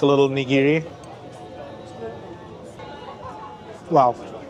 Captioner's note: people chattering